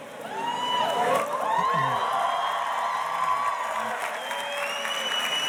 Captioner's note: audience cheers and applauds